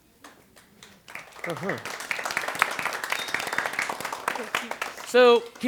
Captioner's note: applause